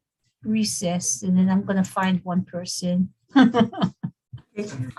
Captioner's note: laughs